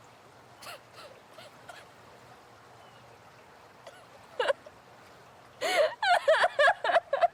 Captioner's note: water burbles; Abby cries